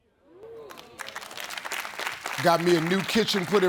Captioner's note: audience clapping